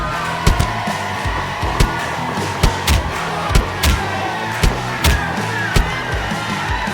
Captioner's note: crowd screaming, wild commotion, and a continuous amount of hit by goons